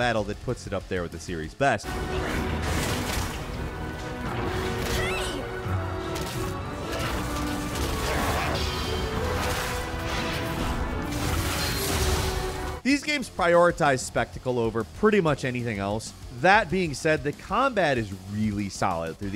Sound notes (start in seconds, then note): 2.1 upbeat music; 6.0 monsters fighting